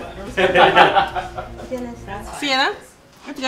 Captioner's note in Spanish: risas